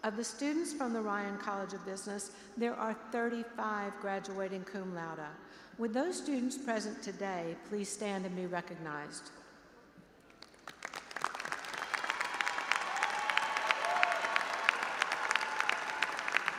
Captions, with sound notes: Of the students from the Ryan College of Business, there are 35 graduating cum laude. Will those students present today please stand and be recognized? (audience applauding and cheering)